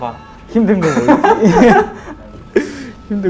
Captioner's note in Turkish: Gülüyor